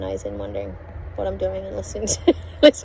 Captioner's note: scoffs